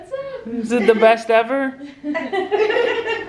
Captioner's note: laughter